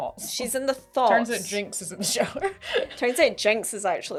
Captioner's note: laugh